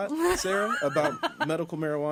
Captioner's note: laughs